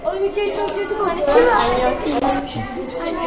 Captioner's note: korean language